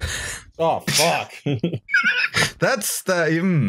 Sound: laughter

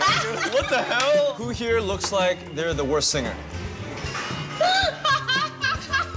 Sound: laughter

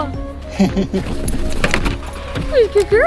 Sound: chuckles

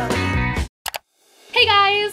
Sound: computer mouse click

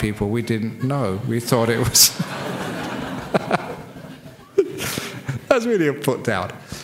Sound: laughs

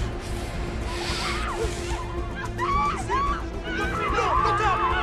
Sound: screaming

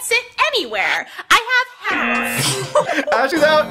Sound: buzzer sounds

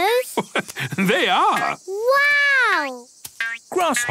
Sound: laugh

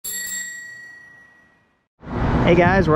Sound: bells chime

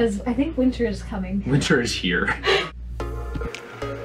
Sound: laughs

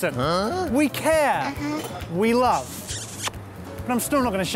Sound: smooching

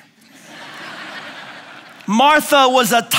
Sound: laughing

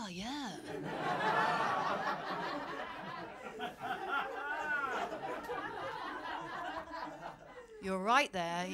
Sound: laughter

